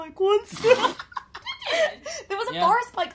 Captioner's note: laughter